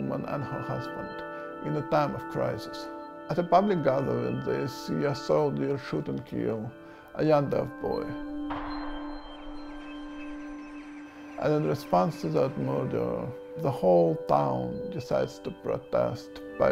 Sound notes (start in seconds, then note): 8.5 gunshot rings out; 8.7 birds calling out